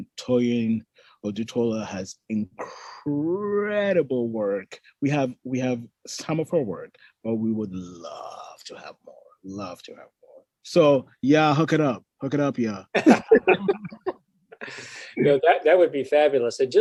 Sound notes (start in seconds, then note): 12.9 all laughing